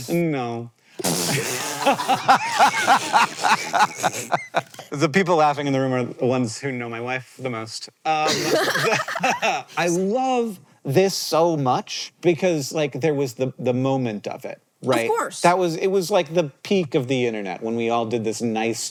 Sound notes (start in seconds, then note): 1.3 CREW laugh; 8.2 laugh